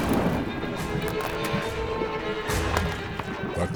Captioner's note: teeth clacking on shell